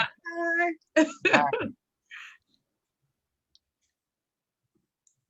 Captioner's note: laughter